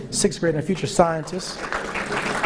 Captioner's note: applause